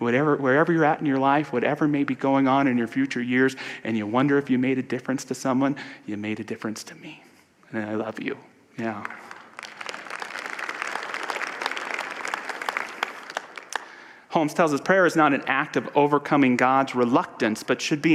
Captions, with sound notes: wherever you’re at in your life…whatever may be going on in your future years and you wonder if you made a difference to someone. You made a difference to me! I love you. [audience applause] Holmes tells us, ‘Prayer is not an act of overcoming God’s reluctance but should be